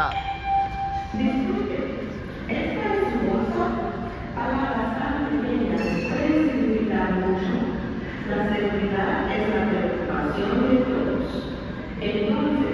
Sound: announcements speaking

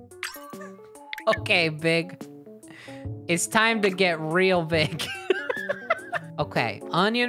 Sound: laughing

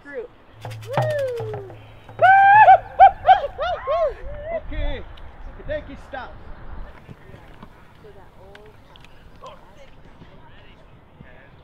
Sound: cheering and laughing

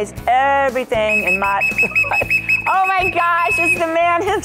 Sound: whistle Blows

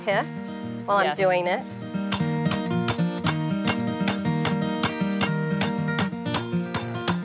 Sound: pounding continues

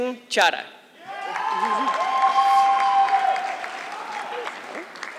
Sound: audience clapping

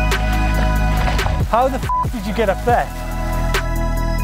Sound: beep

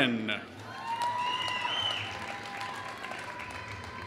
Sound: applause

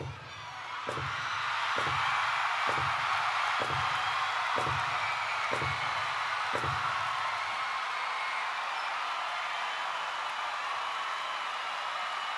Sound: applause louder

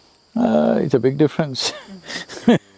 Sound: laughs

